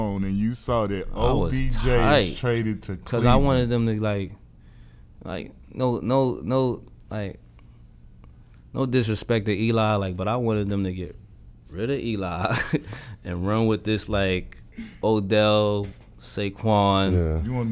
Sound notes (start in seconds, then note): 12.6 laughs